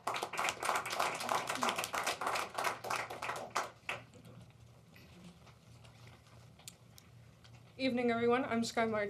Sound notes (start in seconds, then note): 1.7 applause